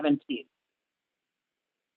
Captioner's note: silence